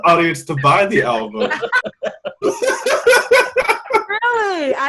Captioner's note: all loudly laughing